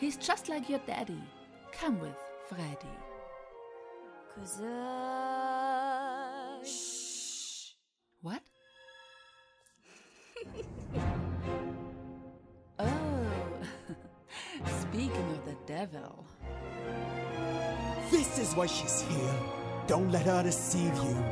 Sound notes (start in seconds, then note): 9.9 abigail giggles